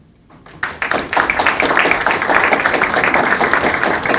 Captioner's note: crowd clapping